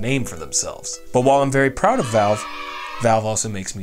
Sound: sounds of kids cheering

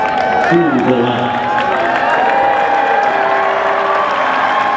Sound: applause

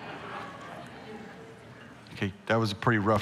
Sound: congregation laughing; congregation converse

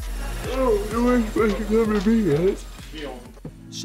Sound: yawning

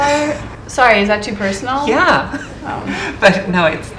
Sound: laugh

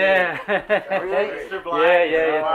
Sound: laughing

